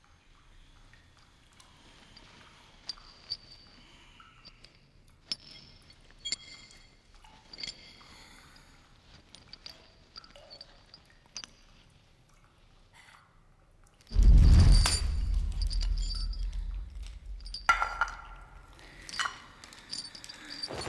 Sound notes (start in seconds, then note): 5.3 chain clinking; 14.1 dramatic music; 17.7 metal clattering; 20.6 dress rustling